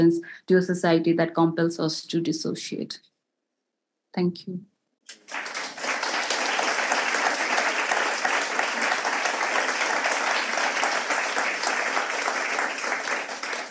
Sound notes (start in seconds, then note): 5.1 audience applauds